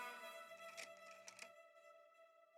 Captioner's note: camera snapping